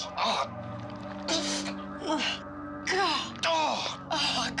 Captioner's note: moans